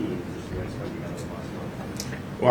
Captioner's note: faintly speaking